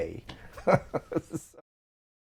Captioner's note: laughter